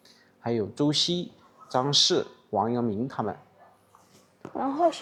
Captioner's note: bark